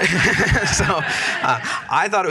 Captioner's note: laughter